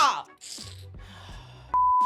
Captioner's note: screaming; beep